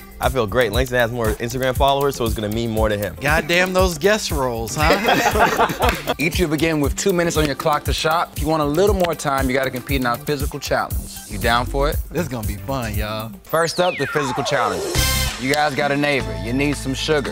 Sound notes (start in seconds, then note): 4.8 laugh